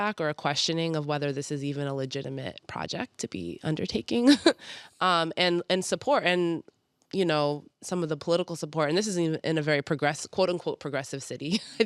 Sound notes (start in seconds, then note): 4.3 chuckles; 11.5 chuckles